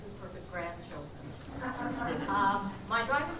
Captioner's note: laughter